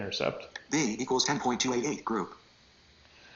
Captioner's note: computer Voice